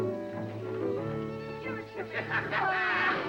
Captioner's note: men Laughing